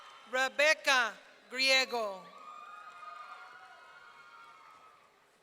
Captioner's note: audience cheering